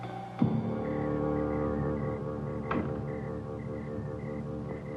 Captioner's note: crickets chirping